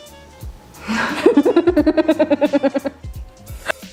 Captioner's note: they both laugh